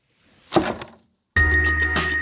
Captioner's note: thump